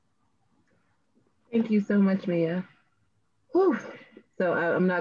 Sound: sighs

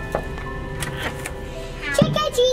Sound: knuckles thumping; door clicks

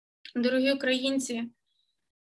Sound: in Ukrainian

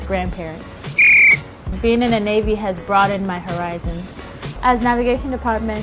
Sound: whistle blows

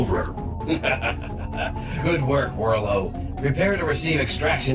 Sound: laughing wickedly

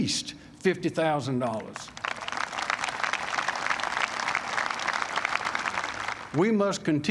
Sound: applause

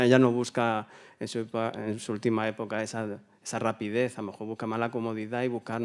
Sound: continues in Spanish

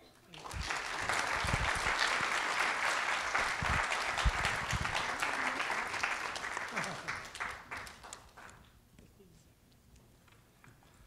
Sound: applause

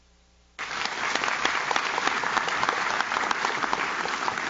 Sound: audience claps

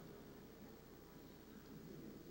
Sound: none

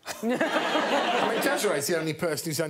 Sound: all laughing

